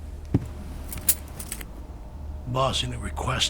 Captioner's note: footsteps thudding; chain jingles